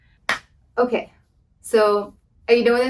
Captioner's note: claps